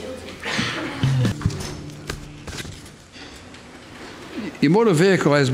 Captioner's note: air whoosh; guitar strumming